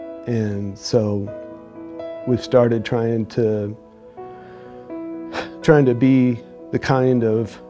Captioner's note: sighs